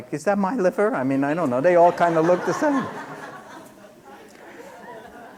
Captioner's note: laughter